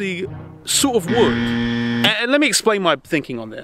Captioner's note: buzzer blares